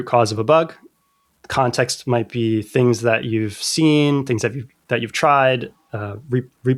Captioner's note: uh